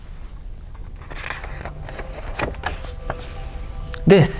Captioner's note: page turns